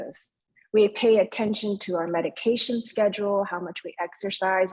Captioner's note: speaking in foreign language